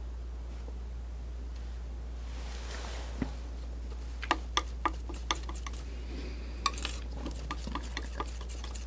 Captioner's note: scratching